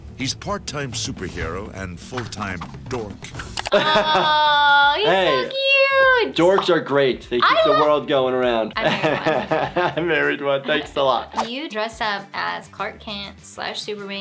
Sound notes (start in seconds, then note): 3.5 laughs; 8.8 laughs